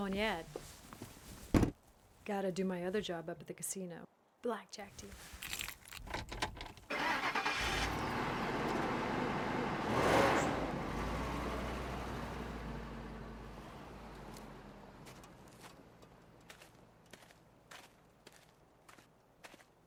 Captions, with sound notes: - Have fun at the wedding. - Oh, I'm not going yet. Gotta do my other job up at the casino. Blackjack dealer. (car engine starting)